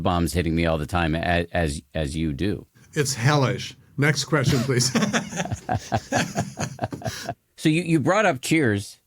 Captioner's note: laughing